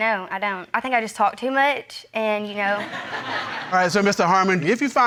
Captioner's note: audience laughing